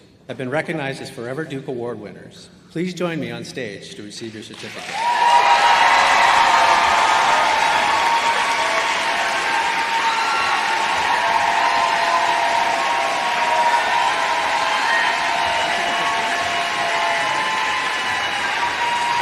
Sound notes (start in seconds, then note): 6.3 applause